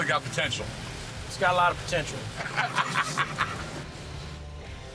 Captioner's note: laughs